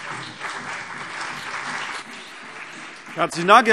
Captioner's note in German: Beifall CDU und BÜNDNIS 90/DIE GRÜNEN